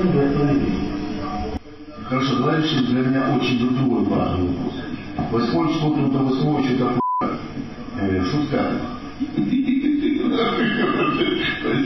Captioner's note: laughs; 2 words whispering